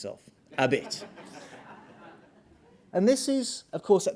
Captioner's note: audience laughing